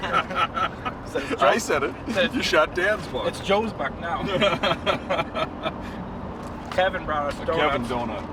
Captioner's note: laughing